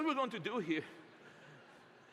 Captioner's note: laughter